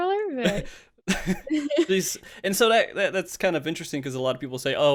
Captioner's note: laughs